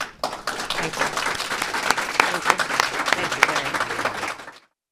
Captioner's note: applause